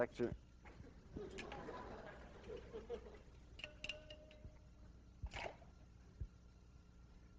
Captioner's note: students laugh